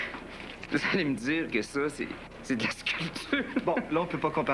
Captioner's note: Rire